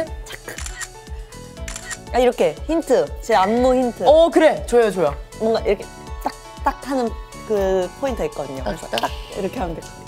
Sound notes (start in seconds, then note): 6.1 finger snap